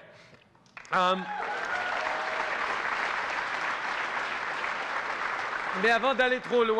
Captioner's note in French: Applaudissements et acclamations